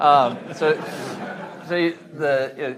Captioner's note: audience laughing